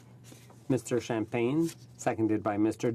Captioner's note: speaking French